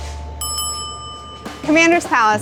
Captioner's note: bell dings